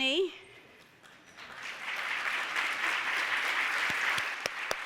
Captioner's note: applause